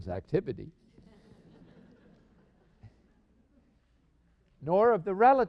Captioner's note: laughter